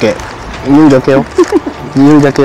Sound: laughs

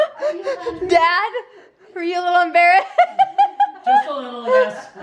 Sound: laughing; voiceover

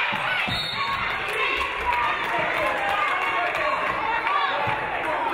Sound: referee blows whistle

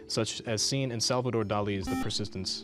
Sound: buzzer

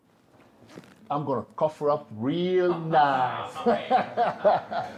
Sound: laughs

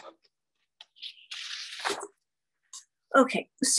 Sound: paper rustles

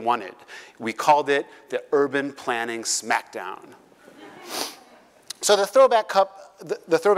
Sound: laugh

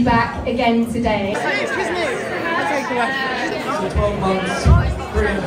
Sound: crowd chattering

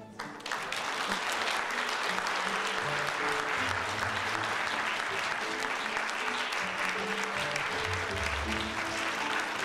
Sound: applause and Music

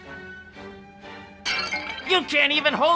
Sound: scepter of shame breaks

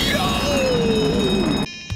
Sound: fire alarm ringing; dance music

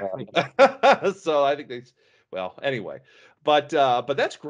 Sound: laughs

